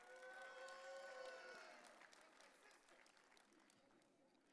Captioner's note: audience cheering